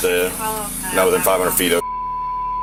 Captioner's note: beep